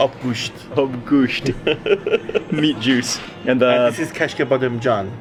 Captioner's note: laughing